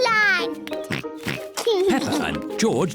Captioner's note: oinks